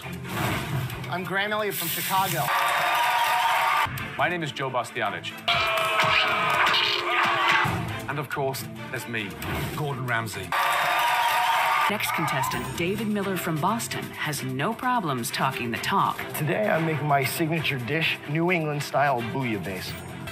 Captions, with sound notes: I'm Graham Elliot from Chicago *cheering* My name is Joe Bastianich *booing* And of course, there's me, Gordon Ramsay. *more cheering* Next contestant, David Miller from Boston, has no problem talking the talk. Today I'm making my signature dish, New England style bouillabase.